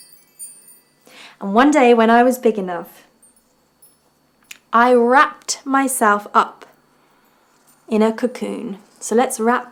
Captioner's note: wind chimes jangling; chimes jangling